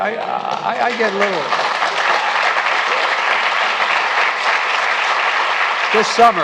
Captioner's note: applause